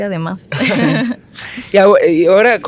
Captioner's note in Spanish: Se ríen